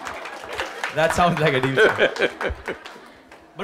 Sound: laughter/Applause; Sadhguru laughs

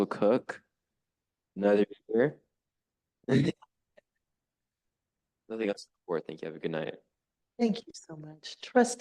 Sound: chuckle

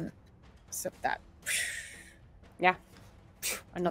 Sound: mimics whoosh

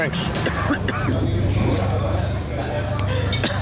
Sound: guy coughs

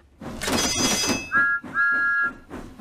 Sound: signals clang; thomas whistles; signals clang

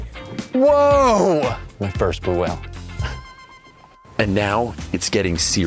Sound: chuckling

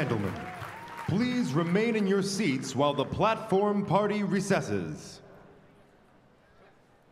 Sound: applause

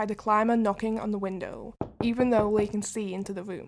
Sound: sound of knocking at window

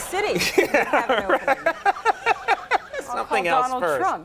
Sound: Conan laughter

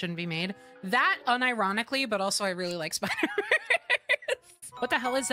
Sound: laughter

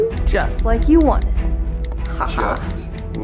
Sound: laughs

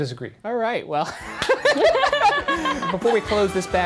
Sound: laughing

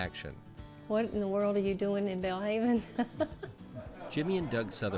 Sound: chuckles

